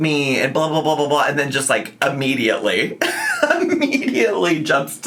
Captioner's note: laughs